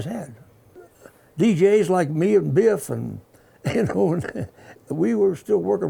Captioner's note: laughs